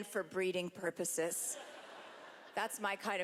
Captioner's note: laughter